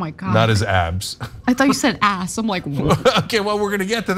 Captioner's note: laugh